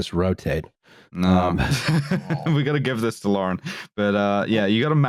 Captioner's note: laughs